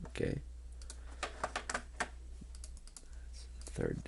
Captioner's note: clicking